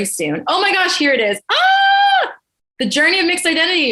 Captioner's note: exclaims